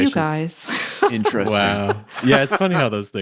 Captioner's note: laughs